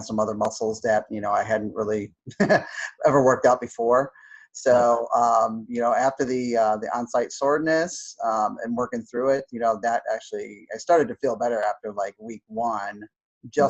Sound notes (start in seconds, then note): 2.3 laughs